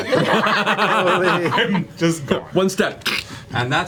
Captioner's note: all laugh